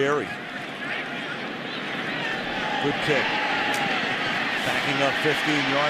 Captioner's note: pa announcement